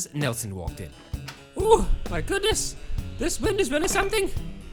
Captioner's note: wind blowing